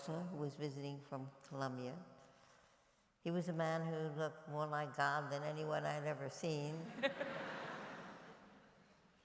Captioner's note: laughter